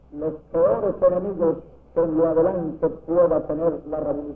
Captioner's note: speaks in Spanish